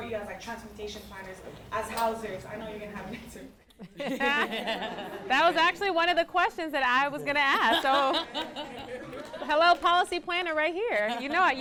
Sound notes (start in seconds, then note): 4.0 panel laughs; 7.4 all laughing